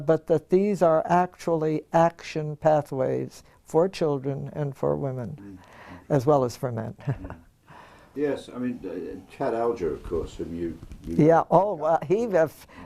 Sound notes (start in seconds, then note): 7.0 laugh